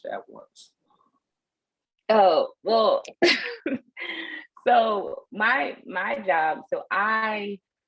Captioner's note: laughter